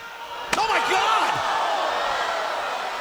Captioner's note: audience jeers; chair thuds